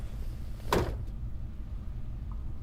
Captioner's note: a car door closes